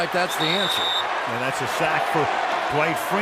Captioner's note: whistle